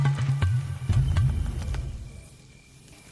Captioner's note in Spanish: Grillos